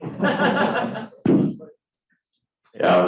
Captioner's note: crowd laughing